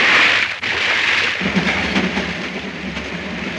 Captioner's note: none